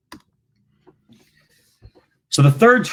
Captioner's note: clicking